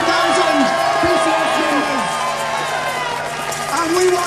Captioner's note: cheers